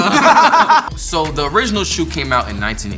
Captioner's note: laughing loudly